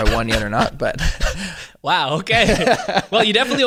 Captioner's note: laughing